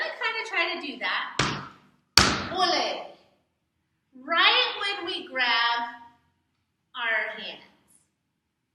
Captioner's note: stomp stomp